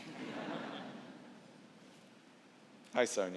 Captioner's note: laughter